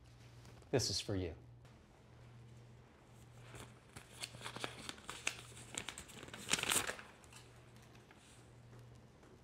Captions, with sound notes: This is for you. (envelope rustling)